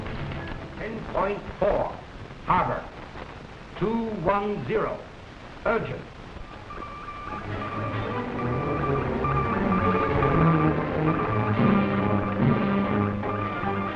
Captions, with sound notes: - 10.4 harbor, 210 urgent. (beeping) (frenzied music)